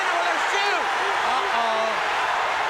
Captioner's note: crowd cheering